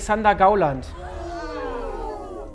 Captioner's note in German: Überraschte Laute